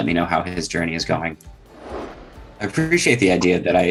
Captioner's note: air whooshing